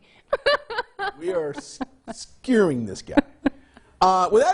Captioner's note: laughs loudly